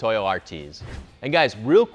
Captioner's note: swooshing